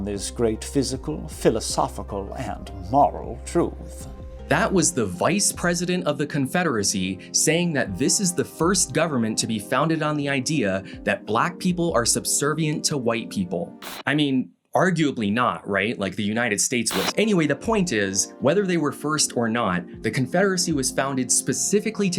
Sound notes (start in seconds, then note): 16.9 TV static